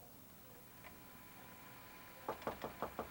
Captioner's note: recorder humming